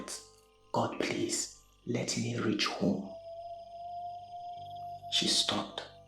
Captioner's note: whistle